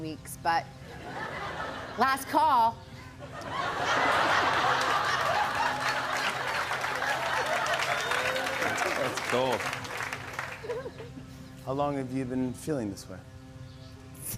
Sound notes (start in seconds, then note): 3.2 laughter; 4.4 applause; 10.0 chuckles